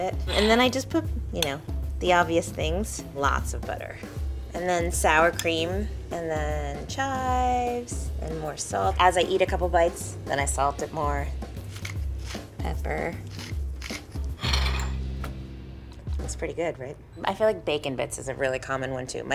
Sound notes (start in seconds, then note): 13.2 grinder cracking; 13.9 plate scraping